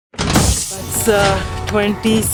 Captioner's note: steel doors slamming